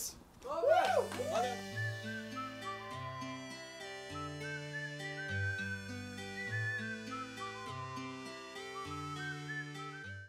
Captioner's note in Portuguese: assovios